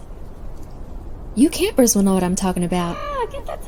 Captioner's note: wind blows